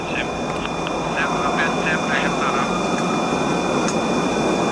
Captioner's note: aeroplane engine whirring